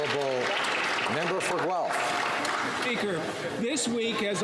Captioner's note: applause